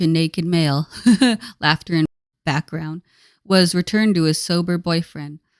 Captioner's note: laughter in background